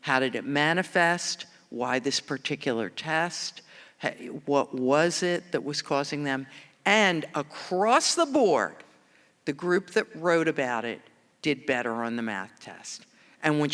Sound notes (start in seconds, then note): none